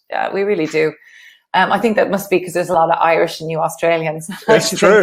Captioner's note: laughs